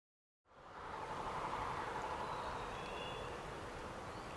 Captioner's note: birds chirping